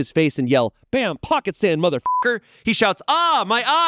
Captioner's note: beep